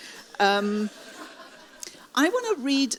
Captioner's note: audience laughs